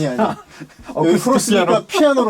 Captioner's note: ha ha ha